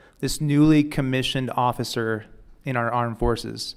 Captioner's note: none